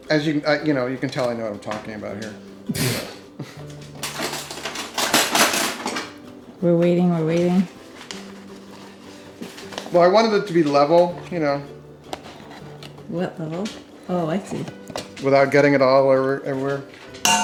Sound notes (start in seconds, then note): 2.7 laughing